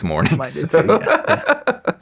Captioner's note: laughing